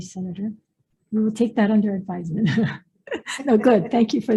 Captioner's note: laughs